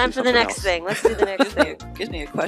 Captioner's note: laughing